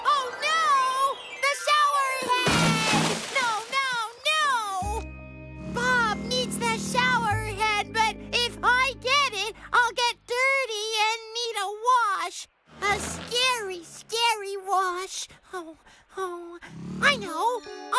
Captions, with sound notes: OH, NO! THE SHOWERHEAD! ( Thud! Splash! ) NO, NO, NO! BOB NEEDS THE SHOWERHEAD, BUT IF I GET IT, I'LL GET DIRTY AND NEED A WASH. A SCARY, SCARY WASH. OH, OH. ( Whimpers ) I KNOW!